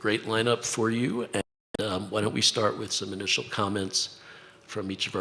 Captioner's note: audio glitch